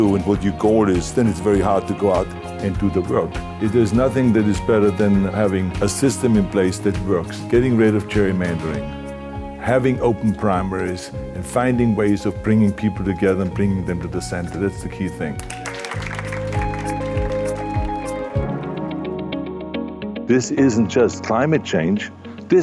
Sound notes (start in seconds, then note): 15.3 group applauding; 17.3 upbeat music